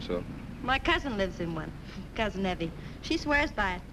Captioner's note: chuckles